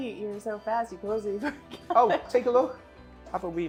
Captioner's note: laughs